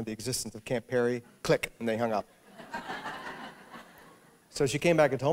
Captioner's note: laughter